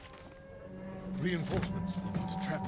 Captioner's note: alarm